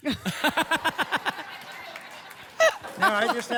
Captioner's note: laughter